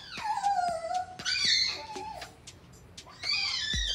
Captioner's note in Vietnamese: tiếng sủa